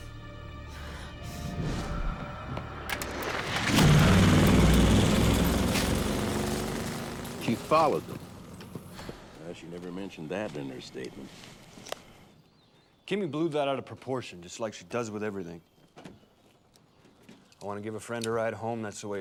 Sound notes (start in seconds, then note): 0.6 breathing heavily; 2.9 door opens; 4.1 vehicle departs